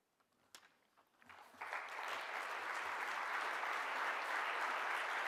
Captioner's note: audience applause